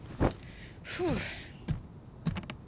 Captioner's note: Mandy exhales